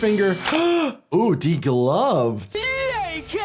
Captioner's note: doctor gasps